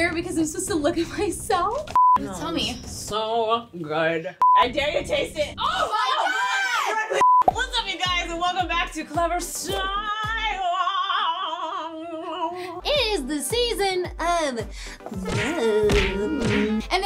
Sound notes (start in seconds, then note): 1.9 beep; 4.4 beep; 7.2 beep; 15.2 smacking sound